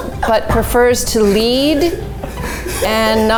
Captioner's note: all laughing